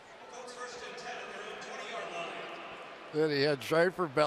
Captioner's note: pa announcement